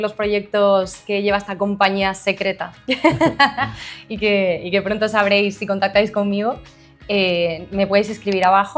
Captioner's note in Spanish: risas